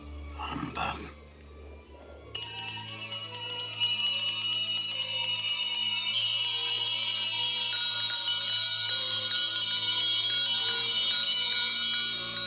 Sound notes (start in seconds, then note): 2.2 bell rings